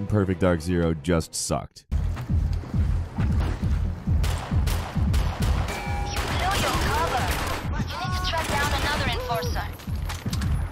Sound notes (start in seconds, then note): 4.2 gunshots